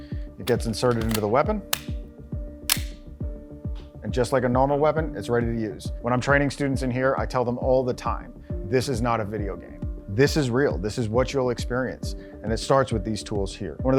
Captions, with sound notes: It gets inserted into the weapon. (gun cocking) And just like a normal weapon, it's ready to use. When I'm training students in here, I tell them all the time, this is not a video game. This is real, this is what you'll experience, and it starts with these tools here.